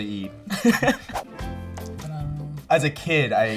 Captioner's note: laughing